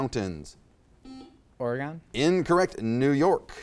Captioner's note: buzzer chimes